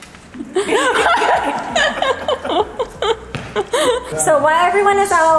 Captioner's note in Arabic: يضحك الجميع